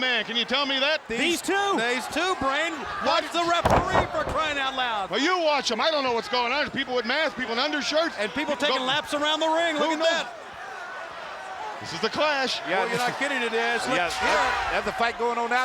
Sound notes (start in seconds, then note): none